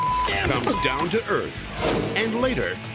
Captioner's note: thuds; beep